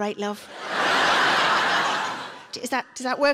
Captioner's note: audience laughing